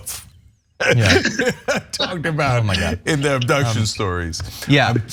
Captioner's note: laugh